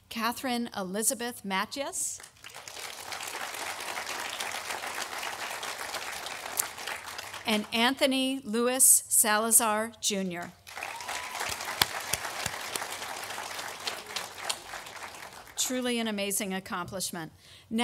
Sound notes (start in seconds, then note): 2.2 audience applauding; 10.6 audience applauding